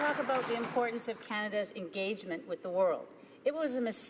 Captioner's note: some Applause